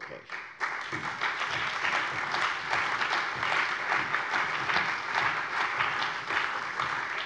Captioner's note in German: Beifall bei der CDU und dem BÜNDNIS 90/DIE GRÜNEN